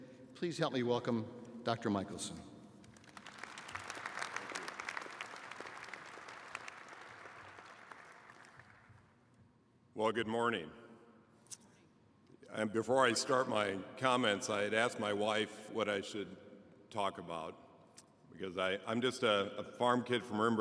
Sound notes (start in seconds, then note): 6.7 applause